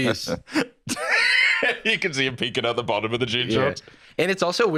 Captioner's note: laughs